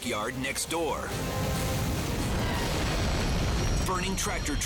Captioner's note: fire roaring